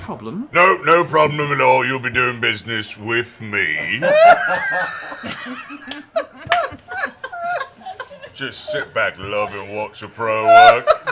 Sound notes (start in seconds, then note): 3.7 laughter